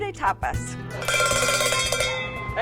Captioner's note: clanging